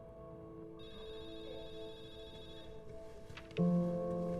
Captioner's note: station phone ringing